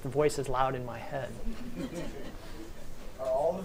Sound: audience chuckles

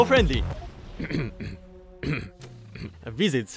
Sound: choking in a foreign language

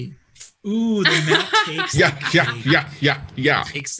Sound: laughing weirdly

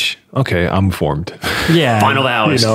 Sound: laughing

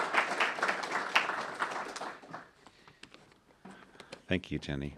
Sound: applause

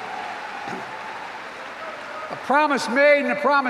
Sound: applause

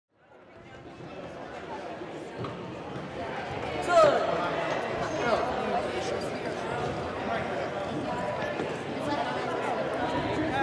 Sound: sound of a crowd

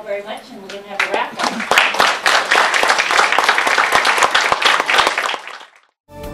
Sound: applause

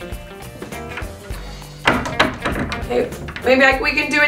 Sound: jazzy music; door clattering

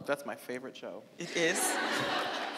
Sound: audience laughing

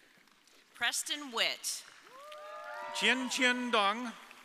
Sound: audience applauding

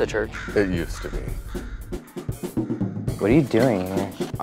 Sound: crows cawing

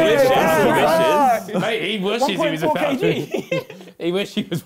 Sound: crowd mumbling

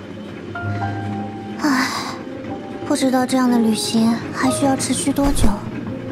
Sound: sigh

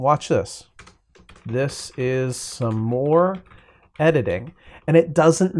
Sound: typing sounds

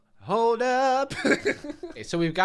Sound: laughs

